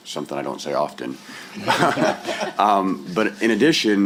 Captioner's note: laughter